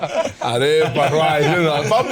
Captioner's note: speaks Spanish